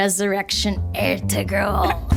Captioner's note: laughter